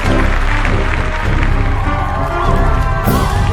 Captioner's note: applause